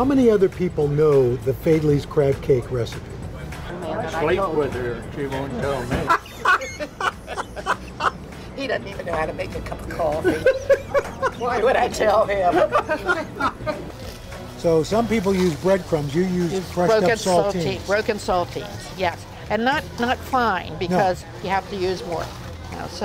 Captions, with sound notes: how many other people know the Faidley's crab cake recipe? (laughs) - He doesn't even know how to make a cup of coffee. Why would I tell him? So, some people use breadcrumbs. You use broken saltines. - Broken saltines. Yes. And not fine, because you have to use more.